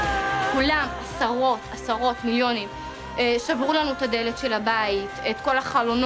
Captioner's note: speaking in foreign language